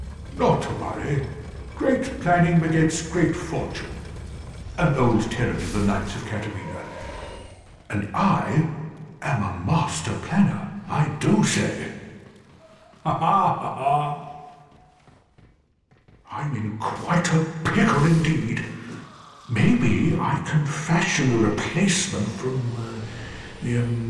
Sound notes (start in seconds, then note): 12.6 laughing